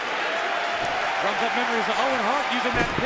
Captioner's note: cheers and applause